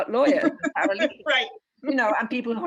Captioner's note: laughter